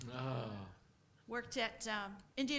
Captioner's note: groans